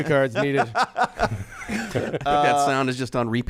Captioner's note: laughing